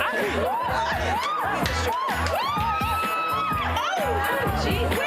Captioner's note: women cheer